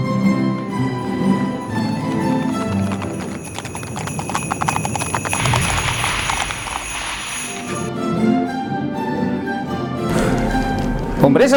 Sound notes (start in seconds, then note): 4.0 carriage bells; 8.3 christmas music plays